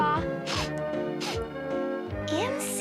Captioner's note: sniff sniff